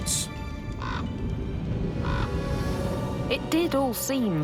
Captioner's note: raven squawking